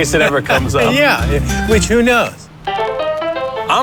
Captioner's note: laughs